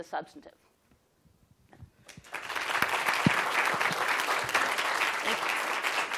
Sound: applause

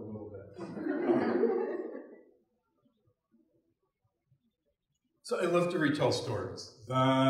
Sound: laugh

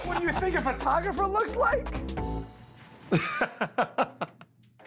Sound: laughs

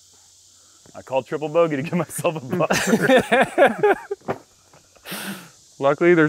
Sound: laughs

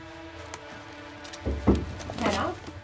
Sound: knock, knock

